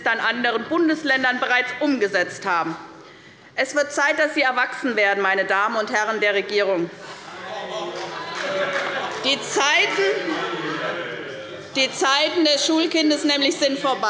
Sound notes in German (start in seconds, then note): 6.7 Zurufe der CDU